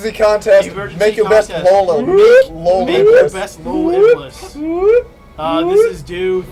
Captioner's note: makes an alarm noise